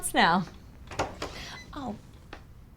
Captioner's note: door rattles